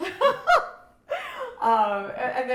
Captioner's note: laughing